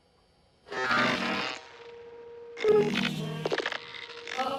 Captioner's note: crackling static